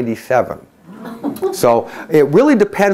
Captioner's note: crowd chuckles